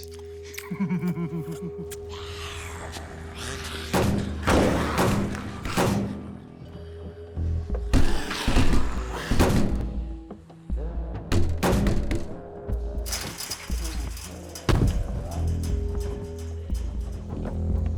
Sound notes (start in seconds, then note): 0.4 chuckling; 2.2 zombies snarling; 3.8 banging; 12.2 faint growling